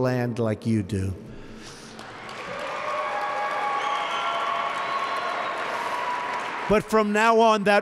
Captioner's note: applause